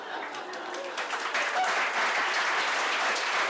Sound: applause

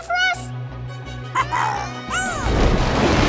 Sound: squealing

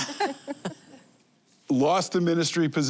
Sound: laughing

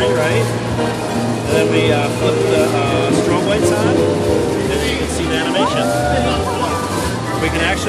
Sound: crowd ohhh and ahhs's and laughs

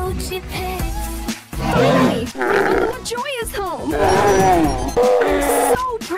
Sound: intersperced with roaring sounds

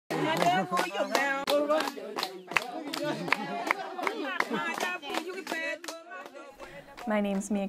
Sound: chanting

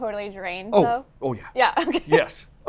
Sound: laughs

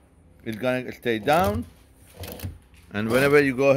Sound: machine whirs

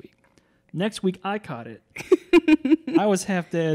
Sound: laughs

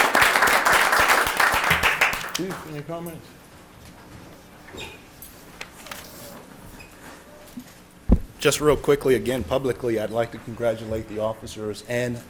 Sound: applause

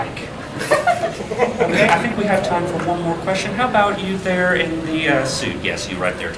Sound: audience giggling

